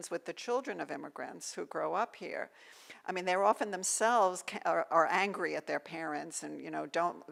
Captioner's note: none